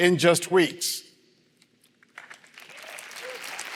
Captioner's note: applause